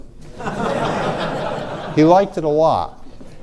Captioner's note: audience laughs